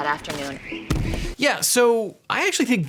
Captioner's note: beep; wind blowing